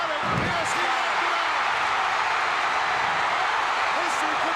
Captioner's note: audience cheering